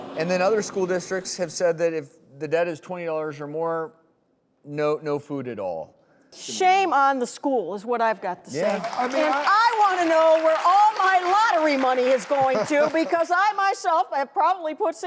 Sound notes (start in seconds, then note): 0.0 crowd scoffs; 8.5 applause